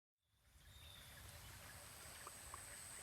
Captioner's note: birds singing